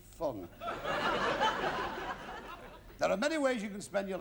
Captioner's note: laughter